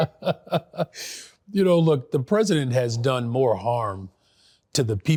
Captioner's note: laughs